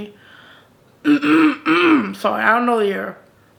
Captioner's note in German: räuspert sich